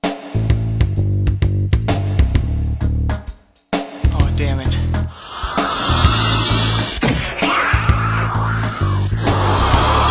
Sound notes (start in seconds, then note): 5.0 hissing